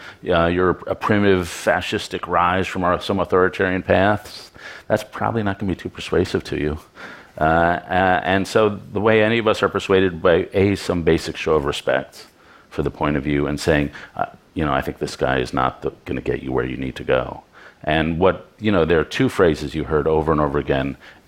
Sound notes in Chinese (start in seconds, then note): none